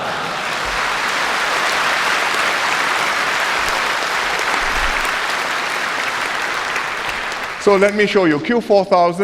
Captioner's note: laughter and applause